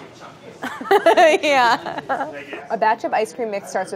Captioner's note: laughs